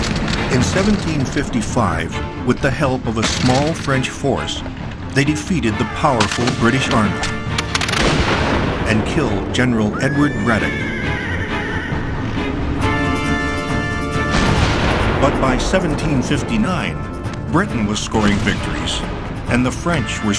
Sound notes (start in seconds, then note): 9.9 horse whinnies; 14.3 guns fire